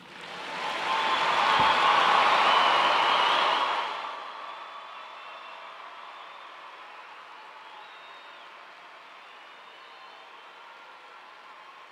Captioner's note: cheers and applause